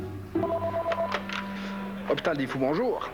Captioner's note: Sonnerie du téléphone